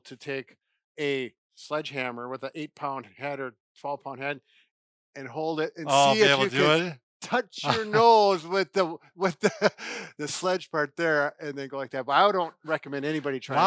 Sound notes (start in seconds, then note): 7.5 laughing